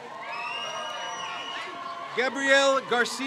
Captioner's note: crowd cheers